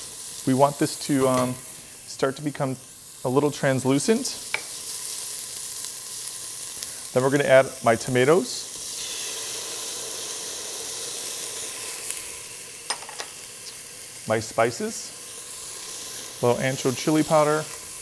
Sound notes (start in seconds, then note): 4.2 pan sizzling; 8.9 pan sizzling